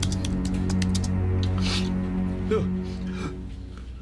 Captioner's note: sniffs